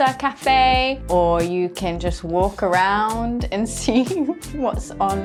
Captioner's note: chuckling